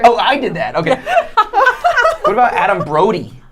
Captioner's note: laughing